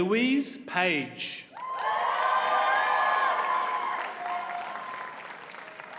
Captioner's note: audience cheers and applauds